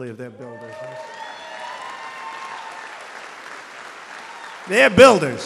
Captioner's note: applause